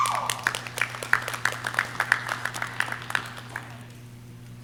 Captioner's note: audience cheering